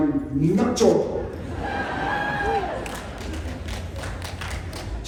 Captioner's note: cheering